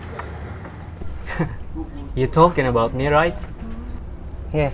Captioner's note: giggle